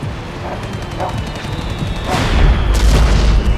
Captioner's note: fireworks whistling, dog barking